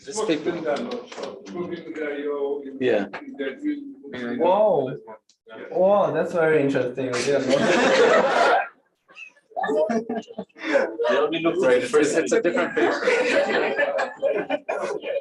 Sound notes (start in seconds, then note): 7.2 laughter